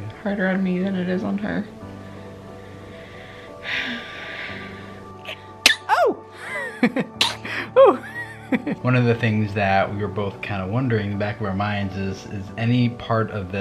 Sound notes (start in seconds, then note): 5.2 sighs; 5.6 baby sneezes; 6.3 laughs